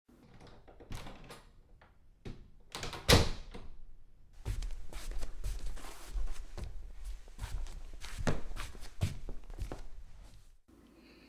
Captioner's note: door opens and closes - footsteps approach